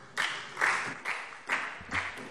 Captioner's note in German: Beifall SPD